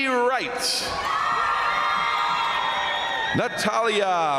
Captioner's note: crowd cheering; crowd applauding